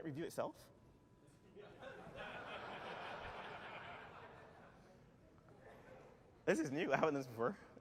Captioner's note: laughter